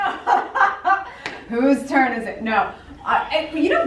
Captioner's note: laughs